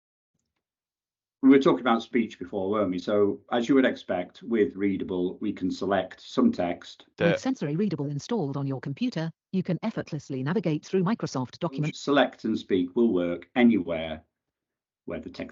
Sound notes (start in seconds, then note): 6.7 computer speaks